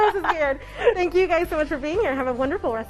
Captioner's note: laughing; upbeat music